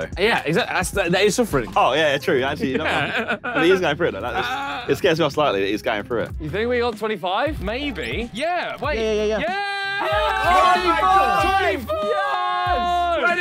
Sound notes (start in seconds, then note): 8.9 cheer